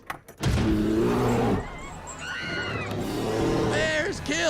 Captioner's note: bear growling; people screaming